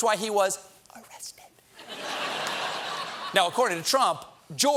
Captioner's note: laughter